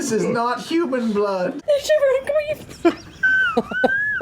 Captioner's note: in tears from laughing